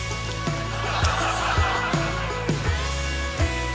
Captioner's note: laughter